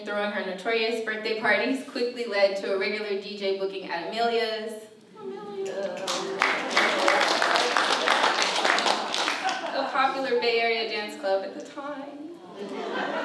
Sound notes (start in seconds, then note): 5.9 applause